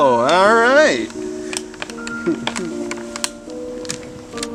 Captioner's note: Travis Chuckles To Himself